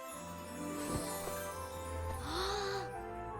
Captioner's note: gasps